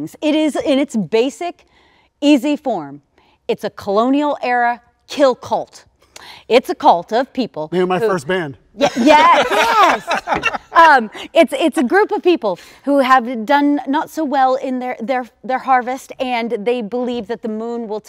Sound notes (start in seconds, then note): 8.8 all laughing